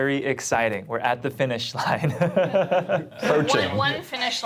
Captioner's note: laughs